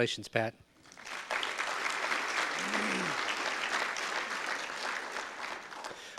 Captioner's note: audience applause